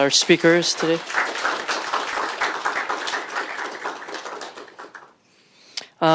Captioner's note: applause